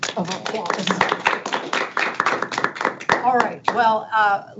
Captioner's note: board members applauding